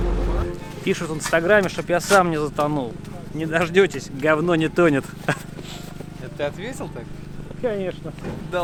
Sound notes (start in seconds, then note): 5.1 laughs